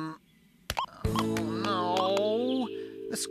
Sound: beep! Beep!

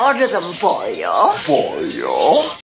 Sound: funny Low Pitch

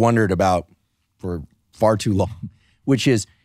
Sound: laughing

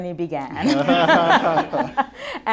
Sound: laughter

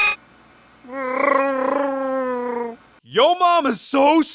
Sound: growls

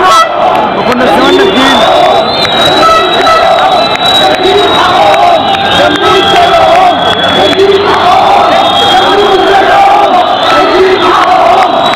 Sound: chants

